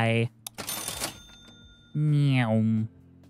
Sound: cash register dings

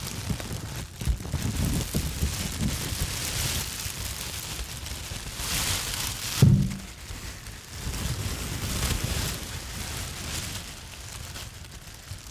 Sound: sounds of crinkling produce bag

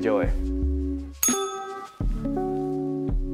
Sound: bell rings

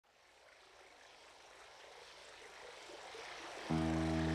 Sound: water flowing

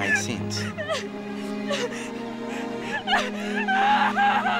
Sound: Sabrina crying

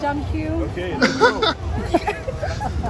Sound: laughing

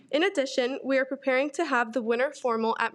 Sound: none

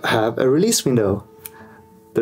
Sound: finger snap

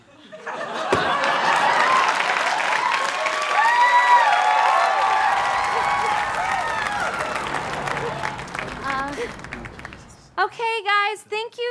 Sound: audience laughter

